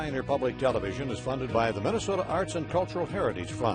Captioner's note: voiceover